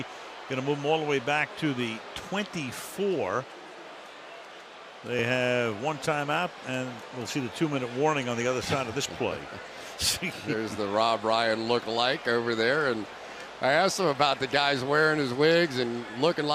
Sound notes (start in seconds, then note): 10.0 chuckles